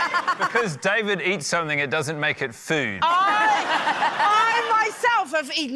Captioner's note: laughter